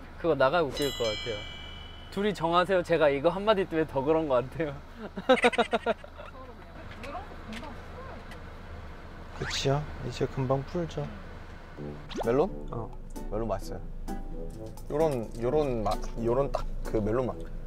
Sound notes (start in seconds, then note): 5.0 kekekekeke